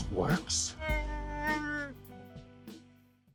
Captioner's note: speaking in shyriiwook language